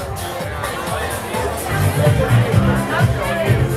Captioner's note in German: Partygeschrei und Musik